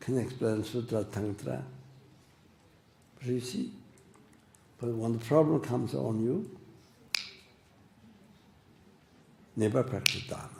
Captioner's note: snaps his fingers